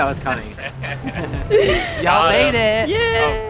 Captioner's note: laughing